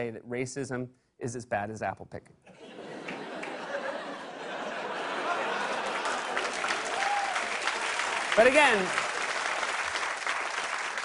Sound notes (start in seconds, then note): 2.4 laughter; 5.1 cheers and applause